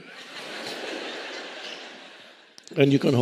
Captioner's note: audience laughing